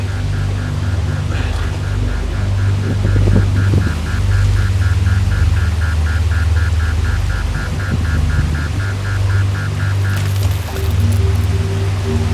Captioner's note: beeping